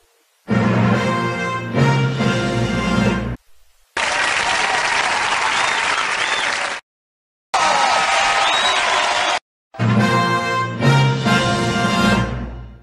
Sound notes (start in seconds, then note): 0.6 fanfare plays; 3.9 audience clapping and cheering; 7.5 audience clapping and applauding; 9.7 fanfare playing